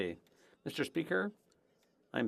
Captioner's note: speaking French